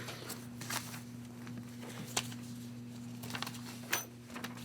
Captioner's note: papers shifting